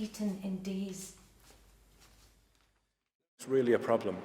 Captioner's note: rustling papers